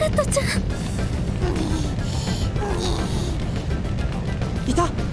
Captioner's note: loud groan